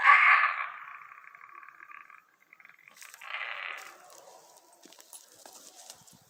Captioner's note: unearthly screeching continues